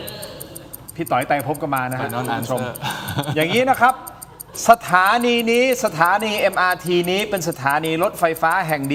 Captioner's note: laughter